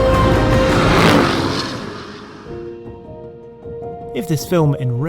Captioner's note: dramatic music; engine roaring